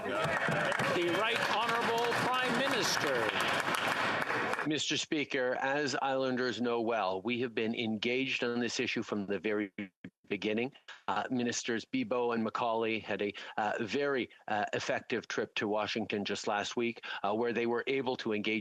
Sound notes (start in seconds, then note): 5.0 applause